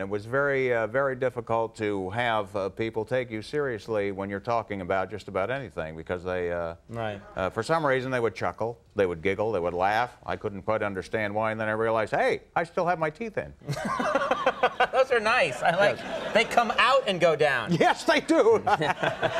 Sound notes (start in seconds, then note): 13.6 Conan laughing; 18.4 laughing